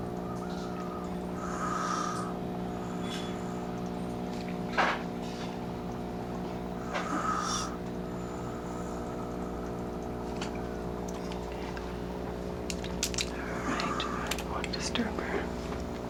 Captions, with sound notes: [ Even Breathing ] All right. I don’t want to disturb her.